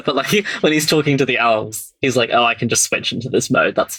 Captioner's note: laughs